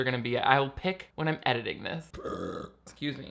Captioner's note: burps